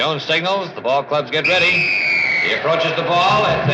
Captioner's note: whistle blows